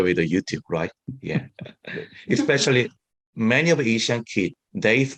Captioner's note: laughs